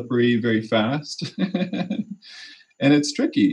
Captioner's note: laughter